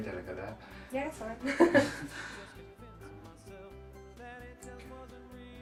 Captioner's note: laughing